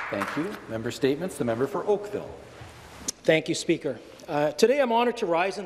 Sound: applause

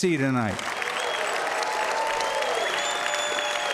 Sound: applause and cheering

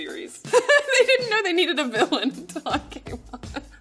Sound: laughs

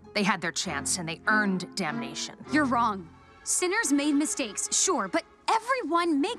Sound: none

